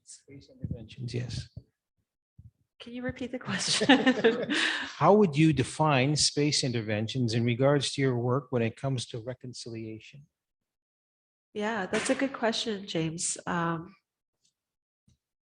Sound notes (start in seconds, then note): 3.4 laughing